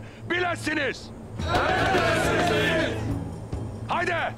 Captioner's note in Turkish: Hepsi bir ağızdan